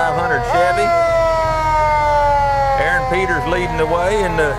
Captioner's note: horn blares